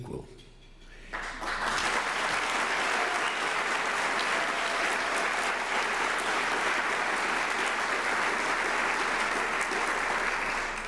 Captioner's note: applause